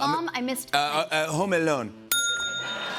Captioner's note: French accent; ding!; cheers and applause